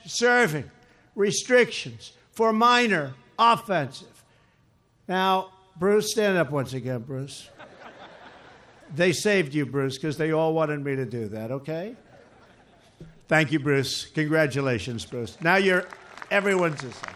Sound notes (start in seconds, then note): 7.4 laughter; 15.1 applause